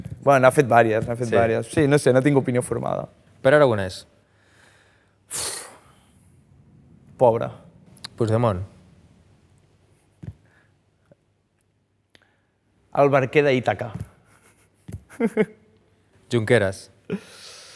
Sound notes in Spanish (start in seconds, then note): 5.6 suspira; 15.1 ríe